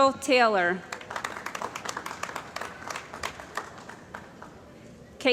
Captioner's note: applause